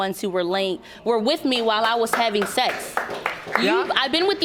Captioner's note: audience applauding